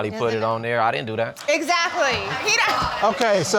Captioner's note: audience groans